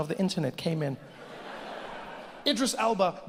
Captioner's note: audience laughs